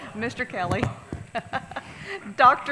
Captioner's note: laughs